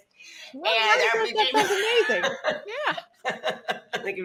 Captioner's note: speaks faintly; laughs